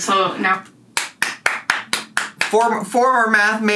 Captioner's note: clapping